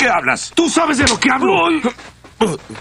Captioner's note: groans